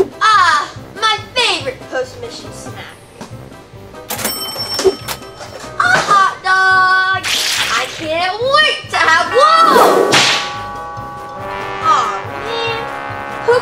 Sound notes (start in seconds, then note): 4.0 cash register dings; 10.5 door bell rings